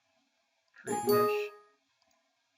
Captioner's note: electronic chirping sound